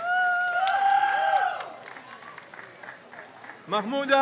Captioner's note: crowd cheers